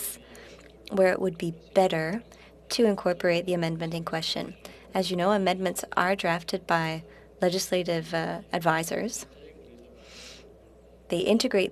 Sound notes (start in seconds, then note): 2.4 speaking French